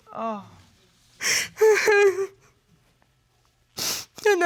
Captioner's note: crying